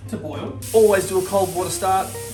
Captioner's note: water running